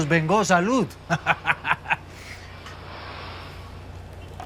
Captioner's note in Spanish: Risas